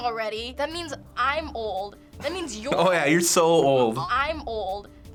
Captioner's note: chuckles